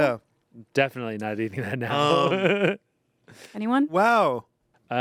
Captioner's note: laughs